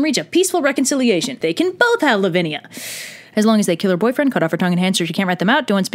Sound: deep breath intake

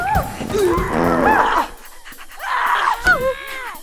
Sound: cat farts; panting; yelling; cat meows

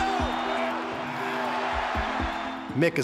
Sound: cheers and applause

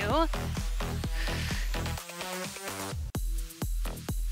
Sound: breaths

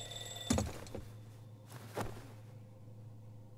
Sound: alarm clock: off

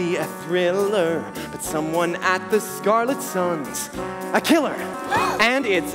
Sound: gasps

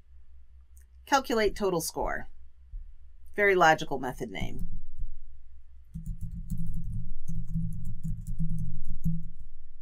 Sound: typing

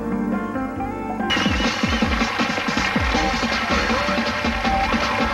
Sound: audience cheering as music plays

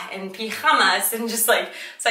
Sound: speaks foreign language; speaks in foreign language

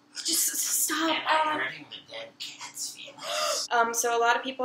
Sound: gasps

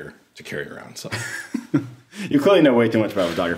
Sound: laughing

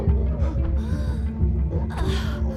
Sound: יהוא מתנשף; מוזיקה מתוחה; אליזבת מתנשפת

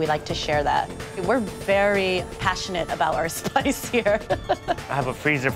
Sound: chuckles

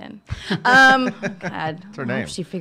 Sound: laughing

